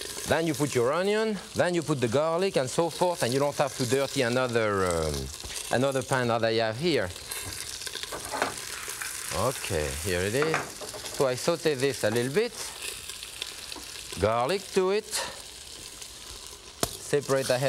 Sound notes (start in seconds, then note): 0.0 vegetables sizzling; 7.8 onions sizzling; 16.7 garlic thudding